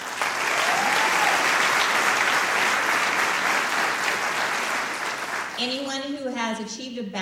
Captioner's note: applause